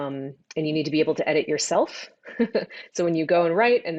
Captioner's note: laughs